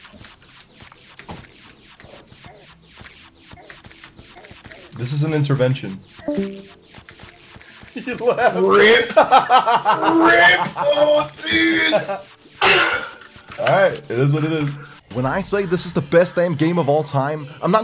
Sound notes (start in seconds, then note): 6.2 Discord call leave sound; 8.8 laughs